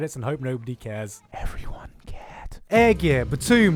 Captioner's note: whisper